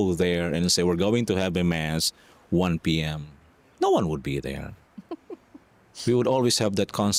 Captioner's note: laughter